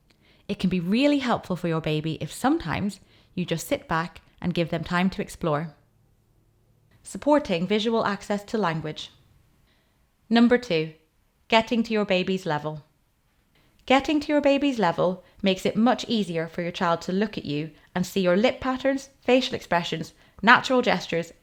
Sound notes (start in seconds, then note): none